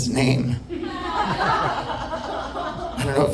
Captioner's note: audience laughing